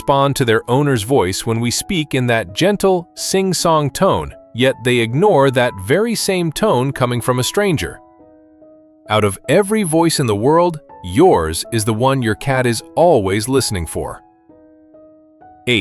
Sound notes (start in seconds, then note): 8.8 thoughtful